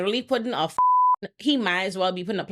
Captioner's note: beep